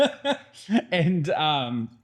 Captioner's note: laughing